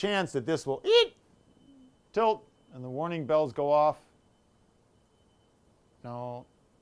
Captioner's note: shrieks